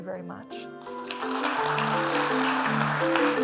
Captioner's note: applause